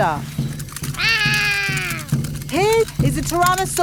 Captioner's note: roaring